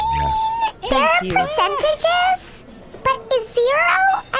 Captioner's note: sounding increasingly dusted up